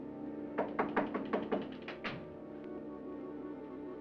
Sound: door closes; knocking on door

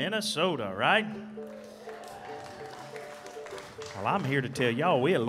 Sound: audience cheering

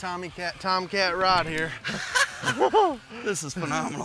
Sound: laughing

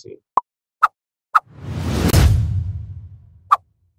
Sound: whooshing

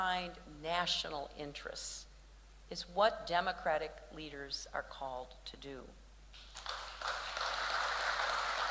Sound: applause

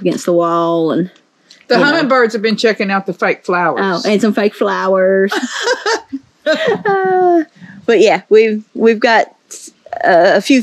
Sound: laughter

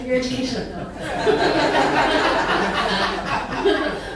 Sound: laughing

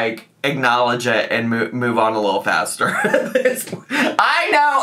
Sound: laughs

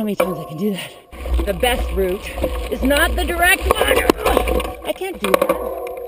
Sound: groans

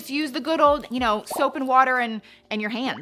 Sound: bubbles popping

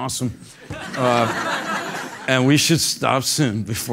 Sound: laugh

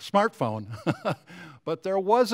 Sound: chuckling

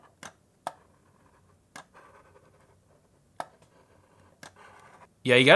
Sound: pencil scraping on a tablet

